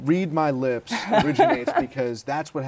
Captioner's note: laughter